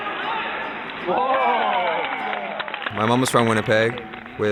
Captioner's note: crowd cheering